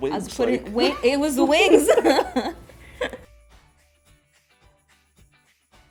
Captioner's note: laughs